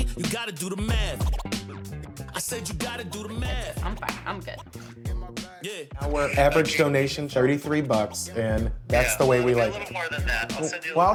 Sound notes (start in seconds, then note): 4.0 smacks hands